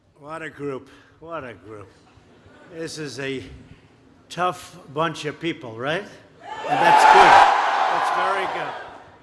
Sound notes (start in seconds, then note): 7.0 applause